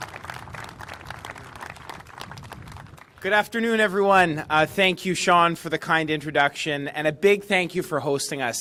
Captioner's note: applause